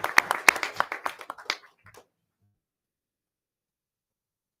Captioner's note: people clapping